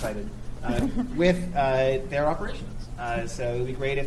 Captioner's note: chuckles